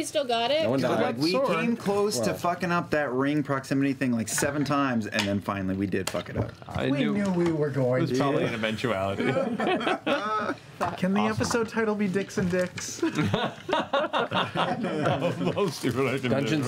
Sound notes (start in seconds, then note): 9.1 laughs; 13.0 laughter